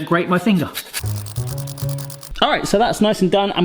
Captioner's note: lemon grating